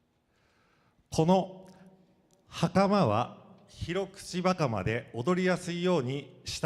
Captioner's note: speaking foreign language